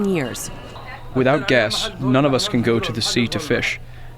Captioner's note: through translator